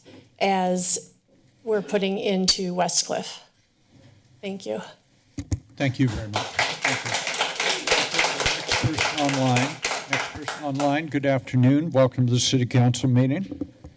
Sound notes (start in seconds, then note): 5.8 applause